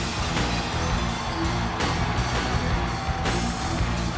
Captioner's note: audience cheers